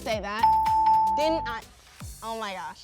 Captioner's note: bell ringing